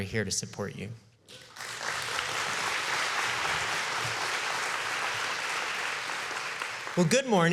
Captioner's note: applause